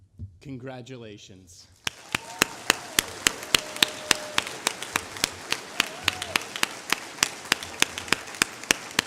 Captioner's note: applause